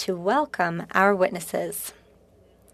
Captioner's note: speaking French